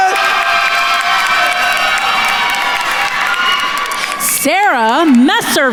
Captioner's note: attendees cheering and applauding